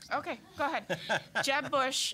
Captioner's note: laughing